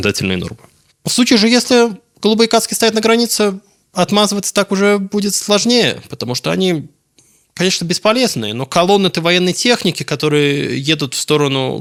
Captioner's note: Russian